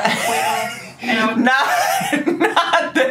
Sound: laughing

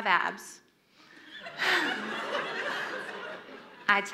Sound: audience laughs

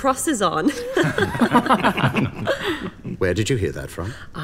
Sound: crowd laughs

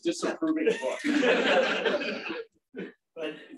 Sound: laughter

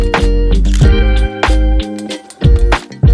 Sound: camera shutter clicks

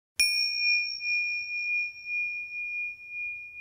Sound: bell dinging

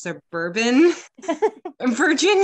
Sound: laughs

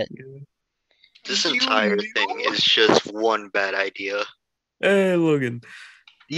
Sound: whimpering

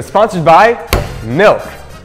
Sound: slam

